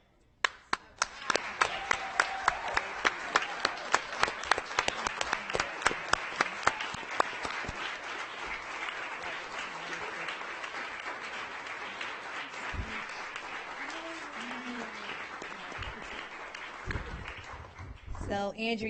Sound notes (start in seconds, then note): 3.7 audience applauding